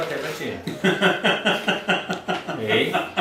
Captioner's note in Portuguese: risos